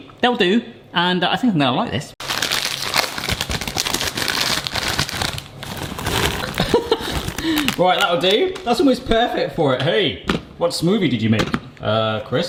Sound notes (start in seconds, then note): 2.2 bag crunching; 6.5 laughs